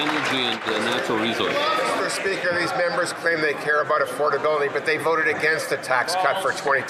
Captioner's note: some Applause